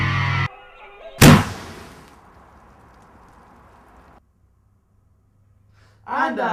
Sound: explosion

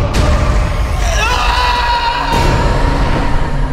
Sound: screaming

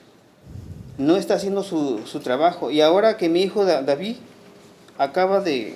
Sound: speaking Spanish

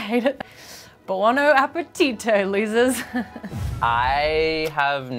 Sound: chuckles

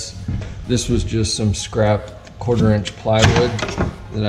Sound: wood banging

